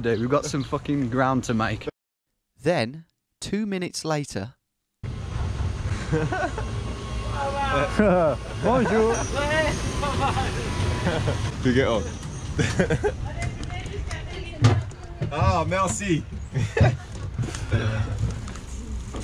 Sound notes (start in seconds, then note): 5.9 laughing; 7.3 driver yelling; 8.6 speaking in a foreign language; 13.2 speaking in a foreign language